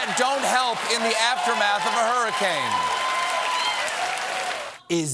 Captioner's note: cheers and applause